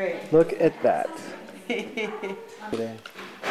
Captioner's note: laughing